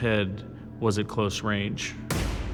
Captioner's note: gun fires